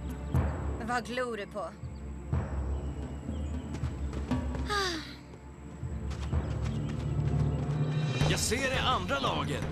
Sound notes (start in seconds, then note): 4.6 sighs